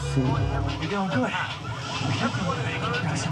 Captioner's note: car alarm beeps